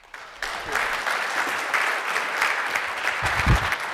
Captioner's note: applause